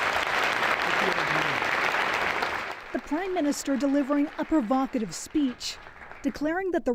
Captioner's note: applause